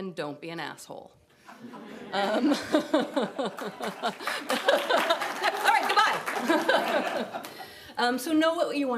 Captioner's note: laughter